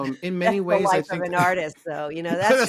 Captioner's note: laughter